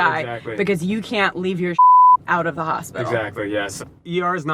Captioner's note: beep